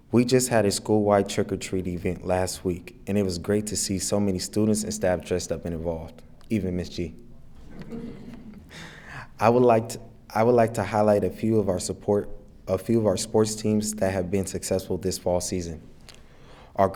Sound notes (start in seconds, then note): 7.6 attendees laughing